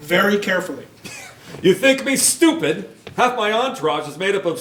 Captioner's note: scoffs